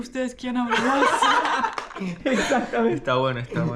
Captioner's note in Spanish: Risas